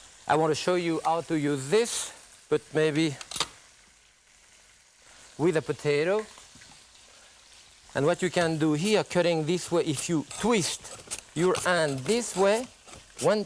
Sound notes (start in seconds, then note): 3.3 metal clicks